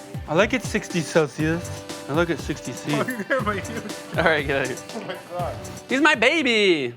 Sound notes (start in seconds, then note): 3.0 laughter